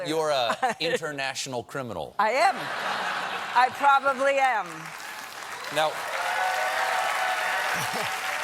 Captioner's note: cheers